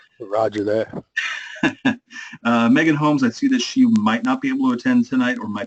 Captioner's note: laugh